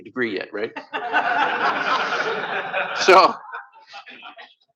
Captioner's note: laughter